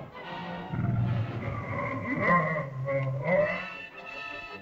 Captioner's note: suspenseful music; dinosaur moans & growls